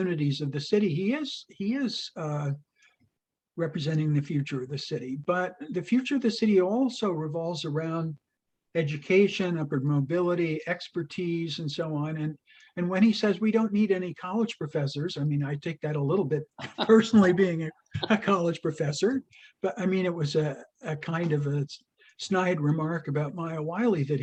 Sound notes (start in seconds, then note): 16.5 laughs